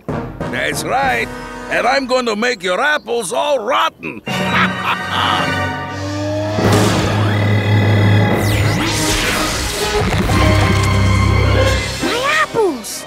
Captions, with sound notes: That's right. And I am going to make your apples all rotten. [laughing] My apples.